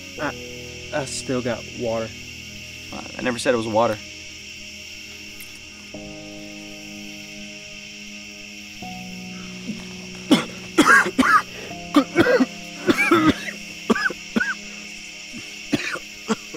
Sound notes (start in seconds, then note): 7.0 somber music; 10.5 Allan coughs